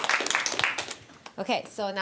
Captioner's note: audience applause